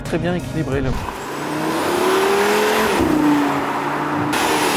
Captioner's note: engine roaring